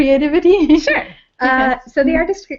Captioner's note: laugh